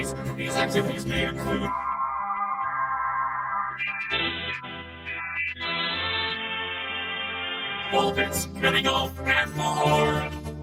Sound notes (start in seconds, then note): 1.7 dial-up tone blares